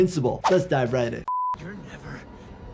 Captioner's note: beep